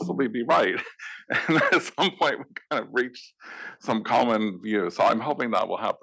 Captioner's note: laugh